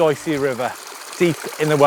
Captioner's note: water trickles